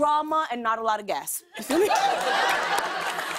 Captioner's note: laughter